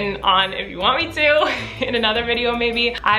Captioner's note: giggles